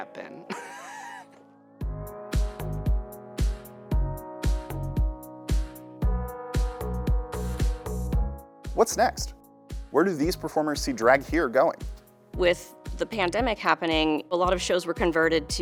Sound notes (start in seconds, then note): 0.4 laughter